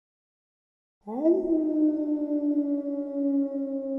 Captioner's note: howling